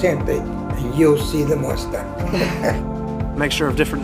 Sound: laughter

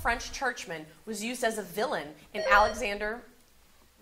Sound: buzzer sounding

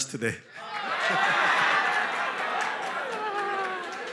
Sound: cheering

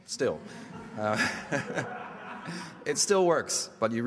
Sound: audience laughter

